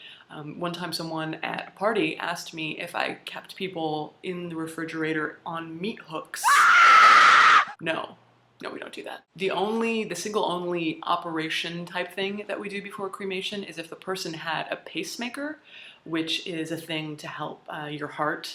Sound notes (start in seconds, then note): 6.4 theatrical scream